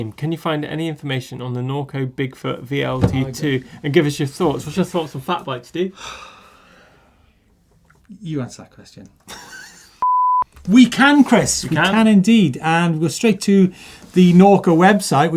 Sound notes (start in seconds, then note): 6.0 sighs; 9.3 laughs; 10.0 loud beep